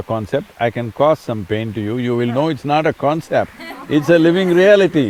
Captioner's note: laughter